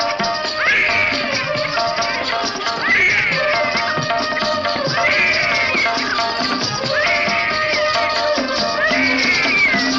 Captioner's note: baby crying